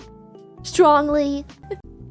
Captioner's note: laughs